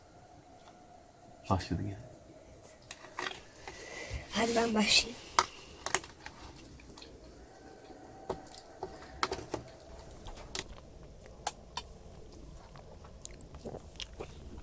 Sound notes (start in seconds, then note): 0.0 silence; 3.1 jackal sounds stop; 8.2 jackal sounds in the distance